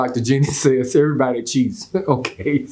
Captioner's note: chuckles